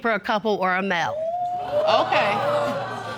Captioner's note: audience gasping